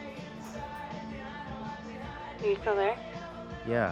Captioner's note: on phone